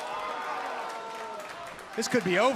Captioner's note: crowd cheering